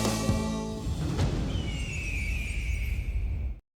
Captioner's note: logo whooshes; eagle calls